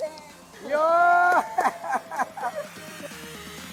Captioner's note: chuckles; laughter; upbeat music playing